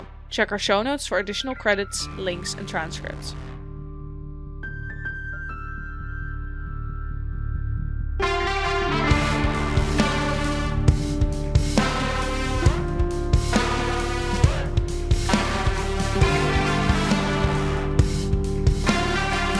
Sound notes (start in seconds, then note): none